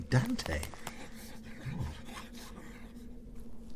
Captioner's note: low whispering voices